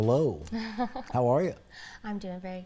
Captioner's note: laughs